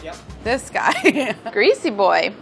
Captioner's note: laughing